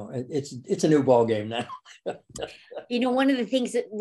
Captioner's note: laughs